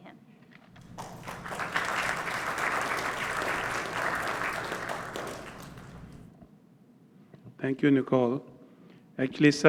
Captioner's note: applause